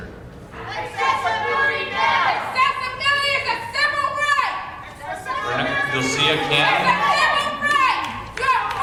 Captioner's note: shouting